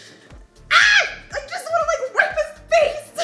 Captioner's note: screams